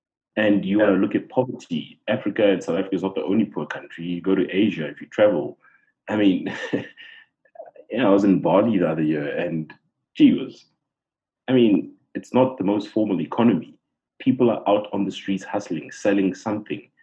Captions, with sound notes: And you have a look at poverty - Africa and South Africa are not the only poor countries. If you go to Asia, if you travel. I mean, [laugh] I was in Bali the other year, and gee whizz! I mean, it's not the most formal economy. People are out on the streets hustling, selling something.